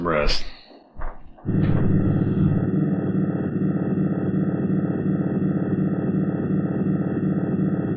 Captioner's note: strange sound pulsing